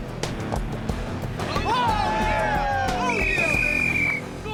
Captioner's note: students cheer